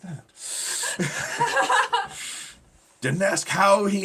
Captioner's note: both laughing